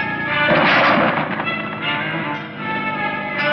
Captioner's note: banging; ominous music